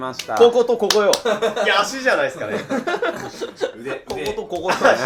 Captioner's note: laughing